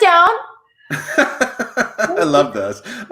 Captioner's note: laughs